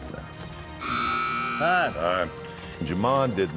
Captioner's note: buzzer sound